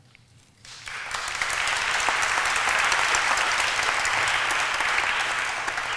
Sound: applause

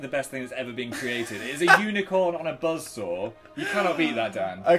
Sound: laughs

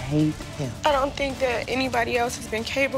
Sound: voice breaking

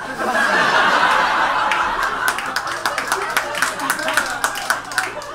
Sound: audience laughs and claps

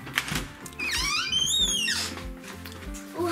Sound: door creaking

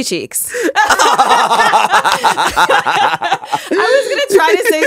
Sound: both laughing

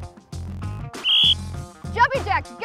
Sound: whistle

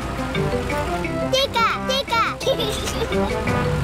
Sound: giggles

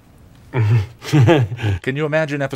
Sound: chuckles

